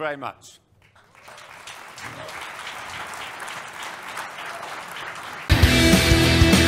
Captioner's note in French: Applaudissements